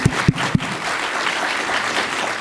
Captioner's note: applause